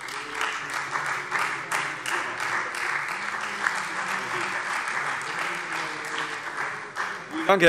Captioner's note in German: Beifall Freie Demokraten und vereinzelt SPD